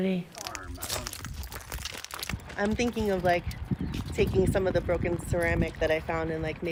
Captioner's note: glass cracking